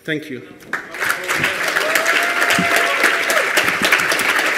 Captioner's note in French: Applaudissements